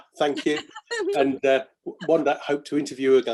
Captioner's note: kisses